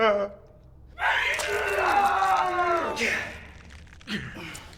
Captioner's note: breaking finger, screaming